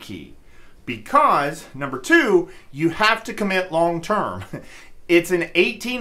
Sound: laughs

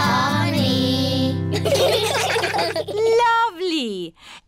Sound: children giggling

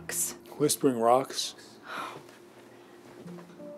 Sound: scoffs

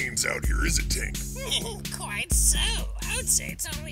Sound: chuckles

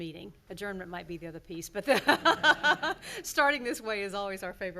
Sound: laughing

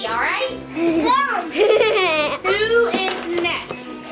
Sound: laughing

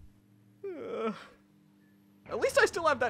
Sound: KRILLIN sighs

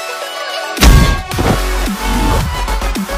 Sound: metal clang sfx

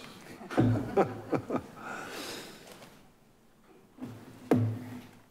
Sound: board members laughing

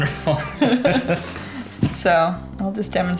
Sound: laughing

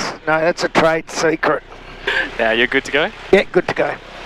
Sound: laughing

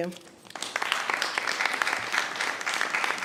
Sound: applause

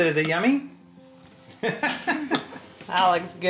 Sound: laughs

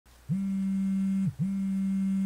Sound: vibration

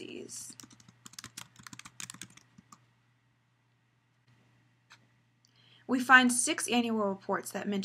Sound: typing

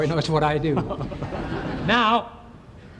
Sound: laughs

